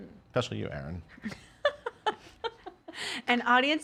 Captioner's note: laughing